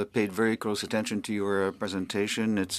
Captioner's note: speaking French